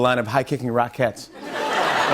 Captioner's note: laughter